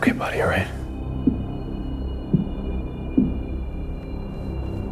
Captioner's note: loud footsteps